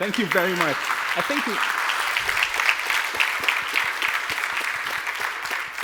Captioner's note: applause